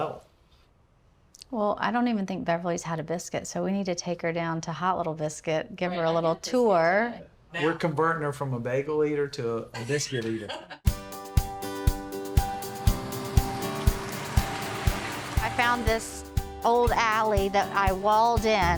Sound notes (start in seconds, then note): 9.8 laughs; 10.8 bright music